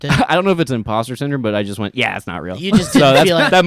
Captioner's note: laughs